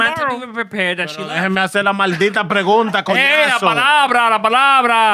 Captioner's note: speaking Spanish